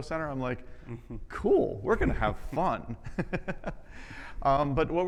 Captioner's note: laughs